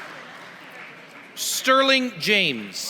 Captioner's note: applause; applause